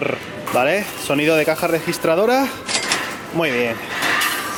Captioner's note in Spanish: sonido de caja registradora